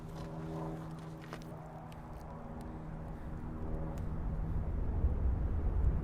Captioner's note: plane soaring continues; wind whistling